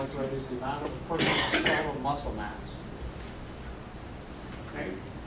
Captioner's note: coughing